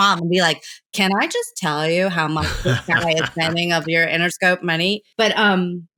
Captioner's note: laughter